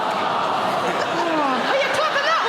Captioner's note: audience laughing